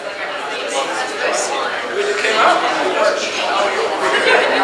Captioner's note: crowd chattering